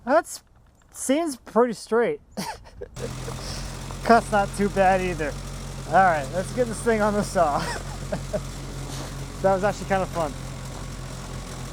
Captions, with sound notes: That seems pretty straight. (laughs) Cut's not too bad either. All right, let's get this thing on the saw. (laughs) That was actually fun.